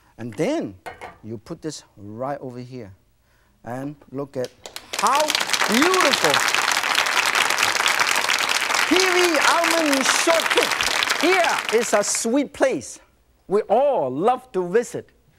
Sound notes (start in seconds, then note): 4.8 applauding